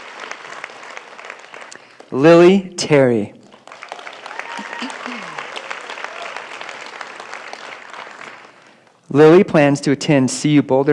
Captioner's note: applause